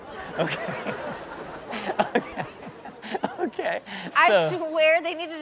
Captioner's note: audience laughs